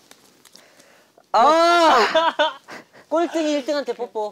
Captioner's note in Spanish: Jajaja